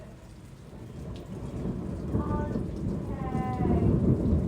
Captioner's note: thunder